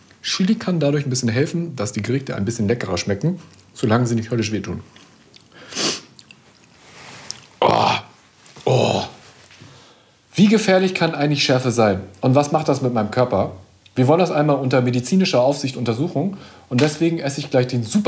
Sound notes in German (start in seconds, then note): 5.5 Schniefen